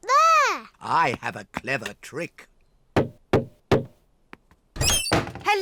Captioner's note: knocks